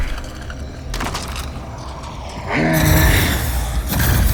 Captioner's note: grunting